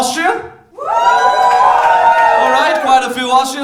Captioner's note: cheering